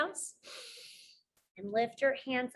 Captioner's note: inhales